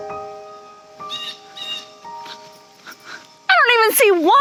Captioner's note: bird squawking